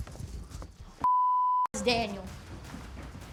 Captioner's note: beep